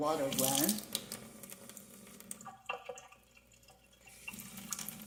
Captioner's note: water dripping